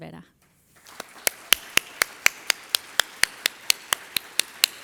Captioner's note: audience applauding